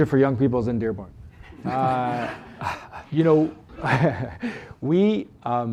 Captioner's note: laughter